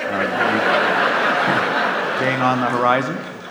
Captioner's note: audience laughs